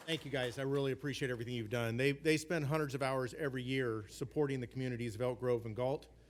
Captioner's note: applause